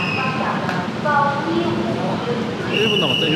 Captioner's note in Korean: 휘슬소리로 시작하는 아침